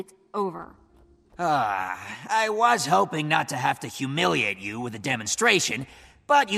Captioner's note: sigh